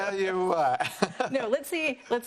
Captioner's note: laughs